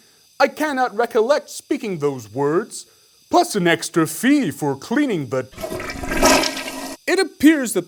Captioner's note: toilet flush